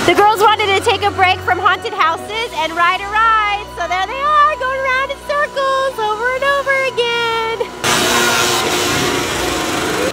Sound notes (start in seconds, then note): none